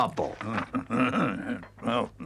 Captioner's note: Badger chuckles